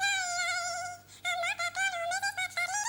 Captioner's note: humming